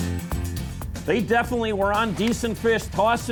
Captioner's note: voiceover